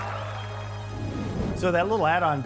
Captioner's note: simulated cheering and applause